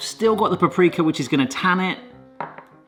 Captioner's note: none